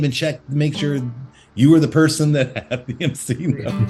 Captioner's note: laughs